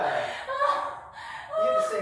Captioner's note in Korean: 호흡곤란